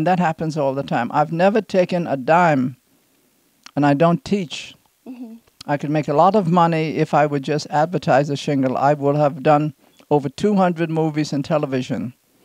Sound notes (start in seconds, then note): none